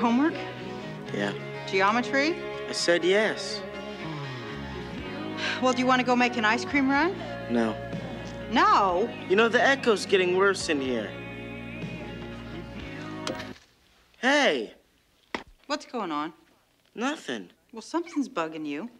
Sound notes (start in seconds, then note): 3.8 sighs; 13.2 TV remote clicks